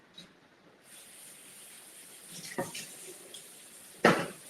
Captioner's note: water trickling